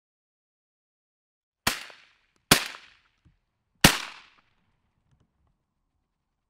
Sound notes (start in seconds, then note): 1.7 gun firing